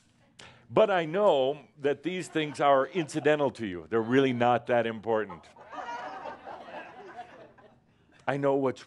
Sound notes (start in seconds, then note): 5.5 more chuckles